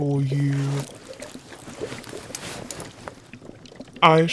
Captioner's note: Rustle of robes as Snape takes your hand and adjusts the knife